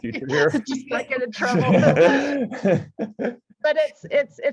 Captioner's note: laughs